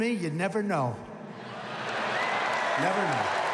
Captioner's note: laughter and applause